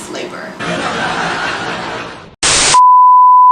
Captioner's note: laugh track